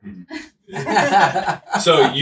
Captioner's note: laughs